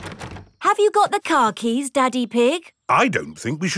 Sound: door rattles

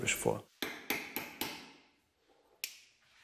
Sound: knocking

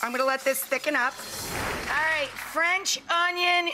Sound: air whooshing

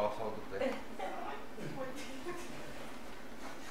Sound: laughs

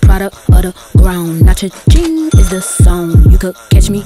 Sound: bell dings

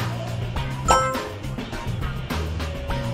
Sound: win tone chiming; anticipatory music playing

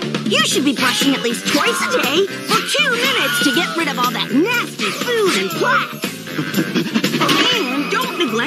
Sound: proceeds to use many stock screams

